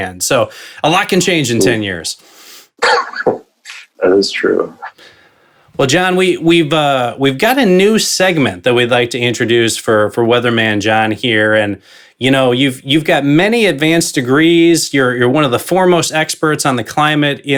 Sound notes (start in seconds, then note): 2.8 laughs